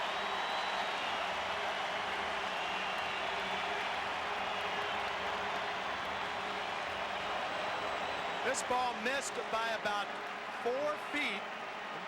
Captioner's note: applause